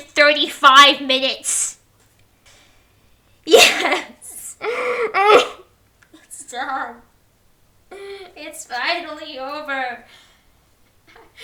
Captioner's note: half-sob, half-sigh